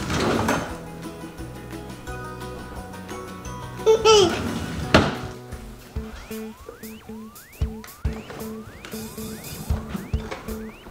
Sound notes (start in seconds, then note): 0.0 drawer opening; 3.8 giggling; 4.3 drawer closing; 7.1 upbeat music